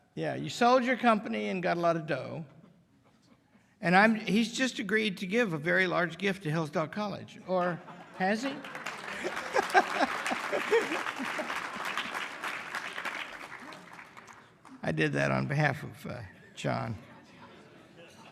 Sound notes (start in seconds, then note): 9.7 laughter, applause